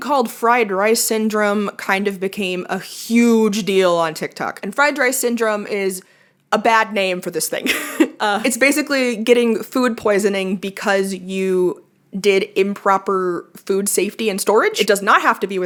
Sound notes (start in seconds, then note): 7.6 laughs